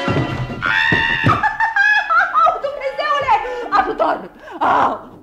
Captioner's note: shrieks in fear